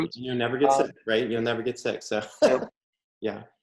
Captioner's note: laughs